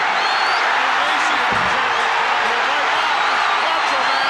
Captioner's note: audience cheering